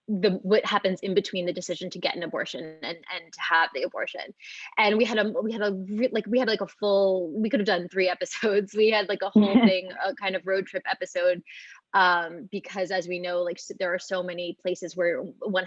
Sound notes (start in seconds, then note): 9.4 chuckles